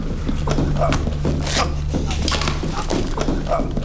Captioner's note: sputtering